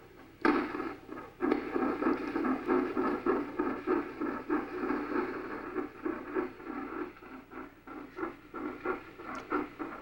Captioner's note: beating sound